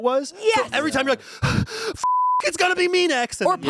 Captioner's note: beep